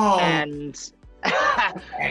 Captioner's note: laughing